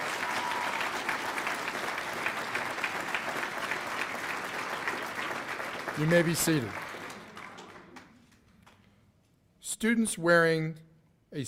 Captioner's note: cheers and applause